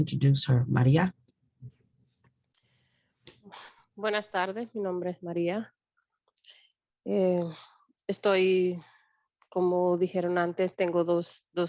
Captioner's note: speaks Spanish